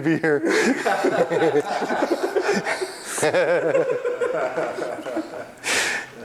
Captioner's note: group laughter